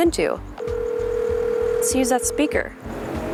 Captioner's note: phone rings